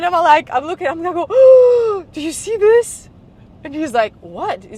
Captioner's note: gasps